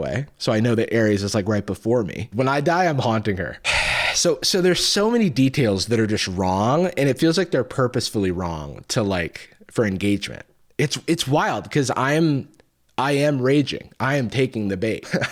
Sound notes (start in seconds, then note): 3.6 sighs